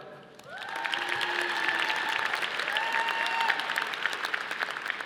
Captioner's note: audience applauding